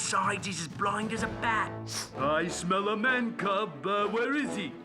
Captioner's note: sniffing